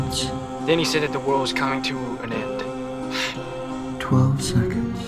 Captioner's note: scoffs